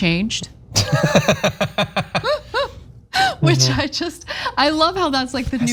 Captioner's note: laugh